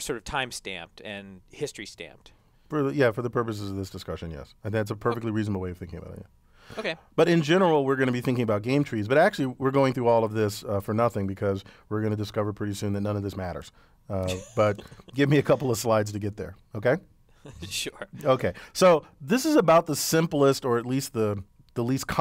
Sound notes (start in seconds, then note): 14.2 laugh; 17.4 laugh